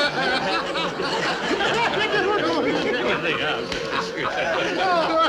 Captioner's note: men laughing